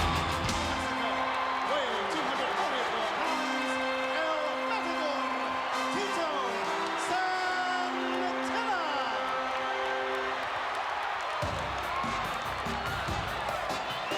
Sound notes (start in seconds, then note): 7.6 crowd cheers; 7.6 spanish horn music plays